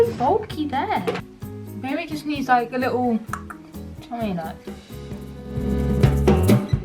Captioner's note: mouth click; upbeat music